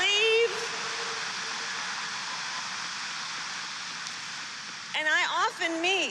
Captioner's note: applause